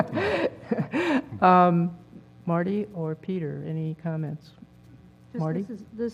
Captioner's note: laugh